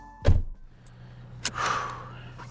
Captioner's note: car door closes; sighs